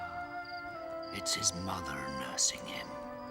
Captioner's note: none